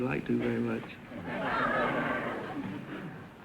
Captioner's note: audience laughter